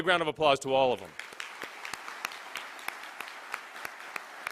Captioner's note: applause